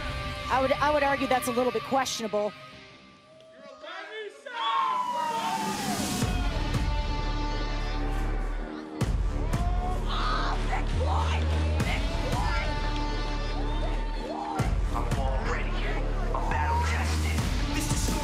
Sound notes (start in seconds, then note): 5.3 crowd chatter